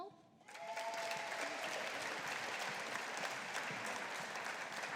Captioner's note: audience applauding